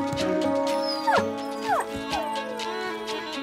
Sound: dancer whines

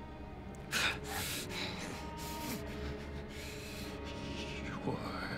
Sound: light dramatic music; heavy breathing

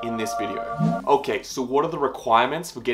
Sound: air whooshing

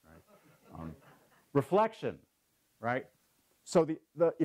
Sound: laugh

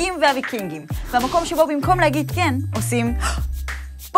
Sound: breath in sound

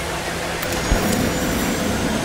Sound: blowing

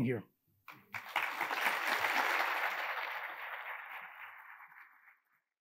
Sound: attendees applauding

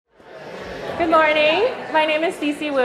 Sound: group chattering

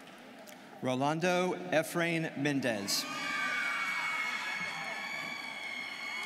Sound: students cheering

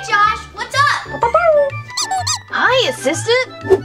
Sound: Blue barking

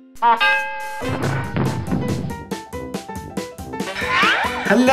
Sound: bell dings; objects pounding; slide whistle blows

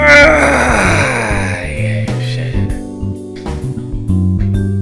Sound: grunts of exertion; sigh of relief

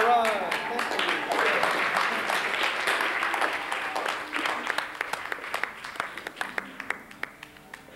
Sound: applause

